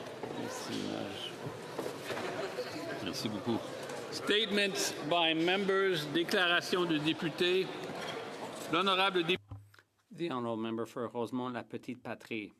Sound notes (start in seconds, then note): 1.3 speaking French